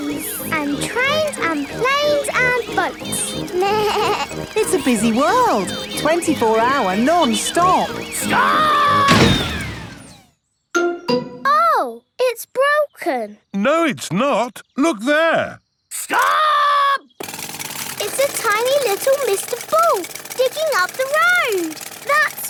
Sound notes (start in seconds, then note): 3.6 bleats; 9.0 thuds